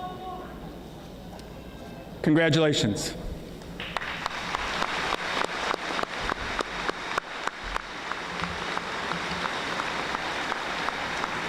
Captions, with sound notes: Congratulations. (audience applauding)